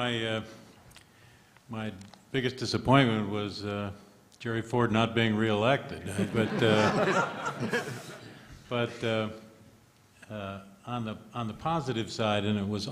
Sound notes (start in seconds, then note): 6.1 laughter